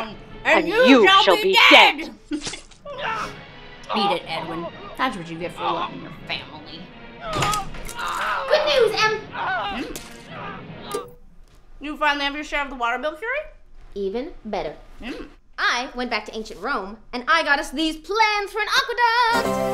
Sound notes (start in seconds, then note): 2.9 SFX: stabbing noises, screams